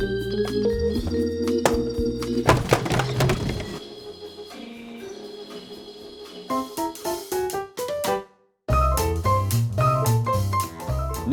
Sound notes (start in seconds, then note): 1.7 tapping clock